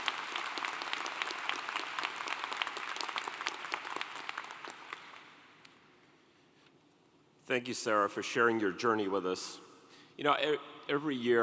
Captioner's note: applause